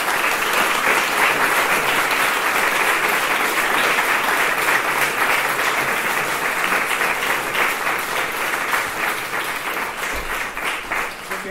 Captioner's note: applause